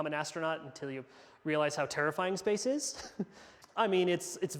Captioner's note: laughs